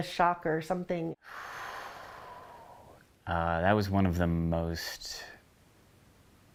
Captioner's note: exhales